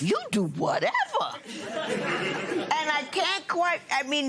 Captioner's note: laughter